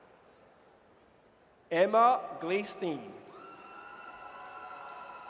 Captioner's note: audience cheers